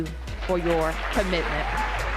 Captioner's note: applause